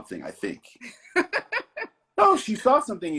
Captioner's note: laughs